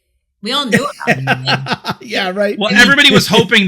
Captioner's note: laughs